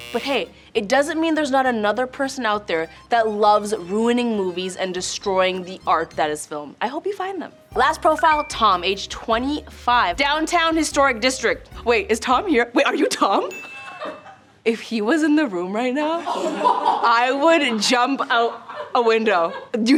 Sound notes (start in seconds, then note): 13.5 bell dings; 16.4 laughter